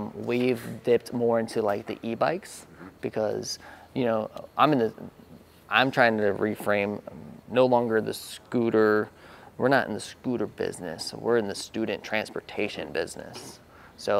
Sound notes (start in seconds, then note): none